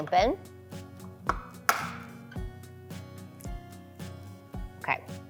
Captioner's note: egg cracking